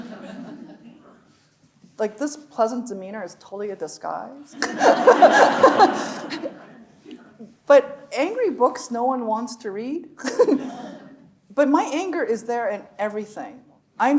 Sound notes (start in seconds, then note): 0.0 audience laughs; 4.6 laughing; 4.6 audience laughing; 10.3 chuckles